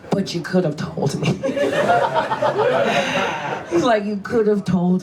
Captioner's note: audience laughs